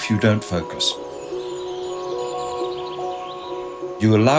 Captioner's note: nature sounds